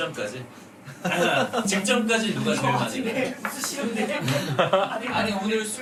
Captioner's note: his laughter seems to imply something